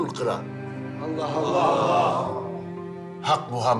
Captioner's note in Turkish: Hep bir ağızdan